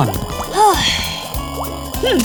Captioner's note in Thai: ถอนใจเบื่อหน่าย